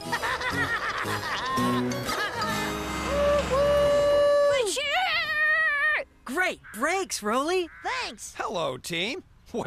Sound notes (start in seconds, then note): 0.0 laughter; 4.8 braking Sound